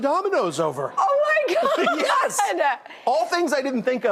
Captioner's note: laughs